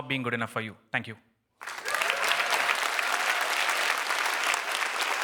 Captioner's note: applause